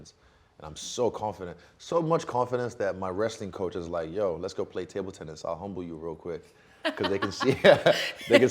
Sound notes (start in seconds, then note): 6.8 laughing